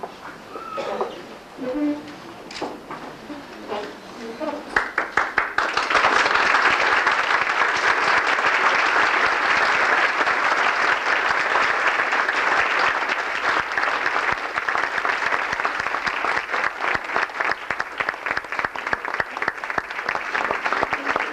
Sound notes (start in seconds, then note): 4.8 welcome applause for shri mataji